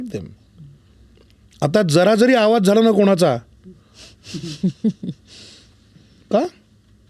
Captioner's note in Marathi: हास्य